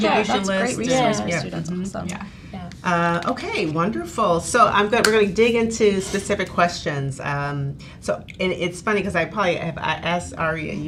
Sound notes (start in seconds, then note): 4.7 claps